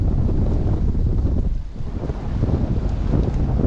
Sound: wind blowing

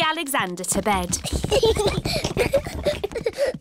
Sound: children giggling

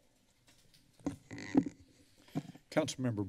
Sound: mic tapping

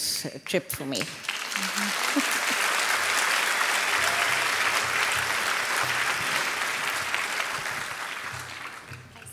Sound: applause

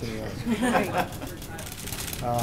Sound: laughter

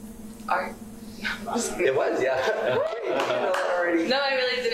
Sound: laughter

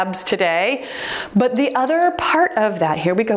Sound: timer beeps

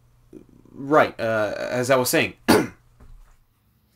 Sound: clears throat

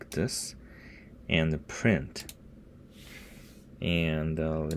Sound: click

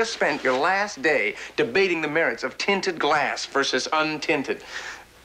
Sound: none

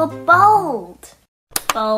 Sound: click

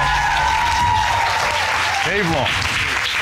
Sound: audience cheers, applauds

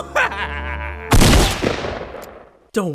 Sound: sinister laughter; gun shot

